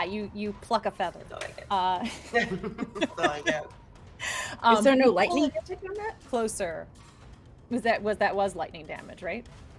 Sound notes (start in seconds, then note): 2.1 chuckles; 2.2 laughs; 5.9 speaks faintly